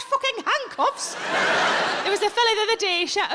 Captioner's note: audience laughs